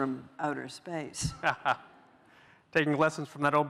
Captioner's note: laughs